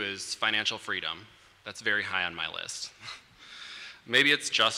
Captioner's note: laughs